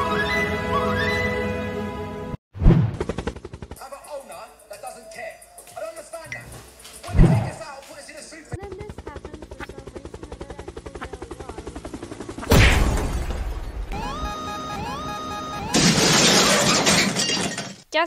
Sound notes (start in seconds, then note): 2.6 swoosh; 3.8 TV Blaring; 12.5 crash; 13.9 alarm; 15.7 crash